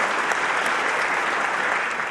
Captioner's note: applause